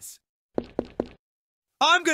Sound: footsteps

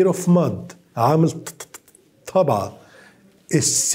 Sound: speaking in foreign language

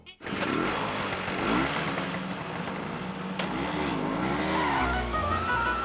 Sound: engines revving

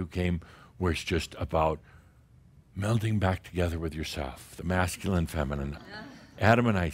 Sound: some chuckles

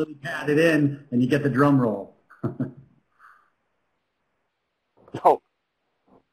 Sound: laughs

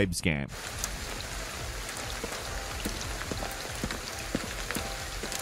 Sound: rain patters, gentle music

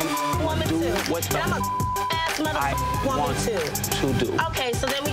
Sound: beeps

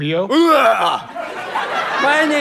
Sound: makes gagging sound

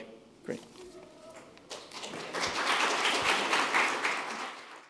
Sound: applause

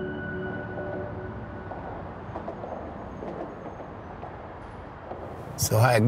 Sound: highway noise

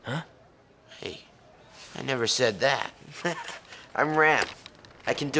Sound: laughs

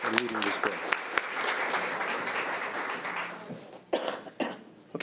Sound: audience applauding

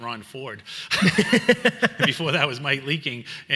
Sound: laughs

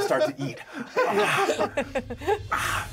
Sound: laughs

